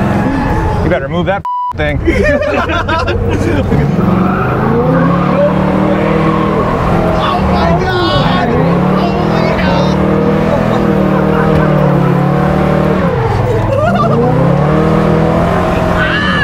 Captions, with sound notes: - You better move that (beep) thing. (guys laugh) (car revs) - Oh my god! (car revs) - Woo! (car revs)